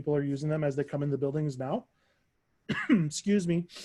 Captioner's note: coughs